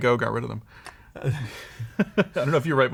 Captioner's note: laughter